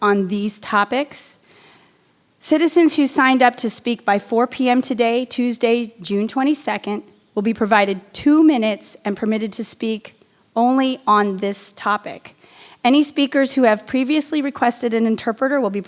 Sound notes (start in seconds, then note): none